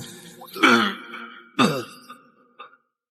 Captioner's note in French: Tousse